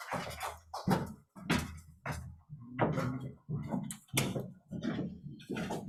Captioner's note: footsteps thudding